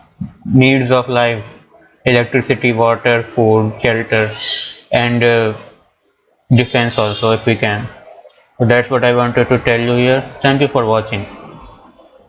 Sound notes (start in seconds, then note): 4.2 parrot screams